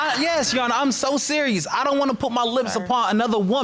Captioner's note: audience laughs